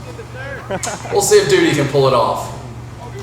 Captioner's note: man laughing